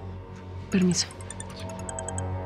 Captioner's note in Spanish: Suena celular